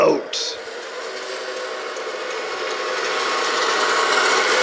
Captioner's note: truck engine roars